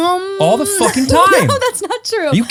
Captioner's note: laughing